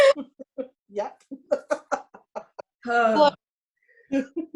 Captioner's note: laughing